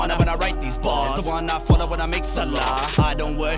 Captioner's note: non-english